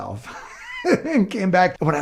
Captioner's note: laughing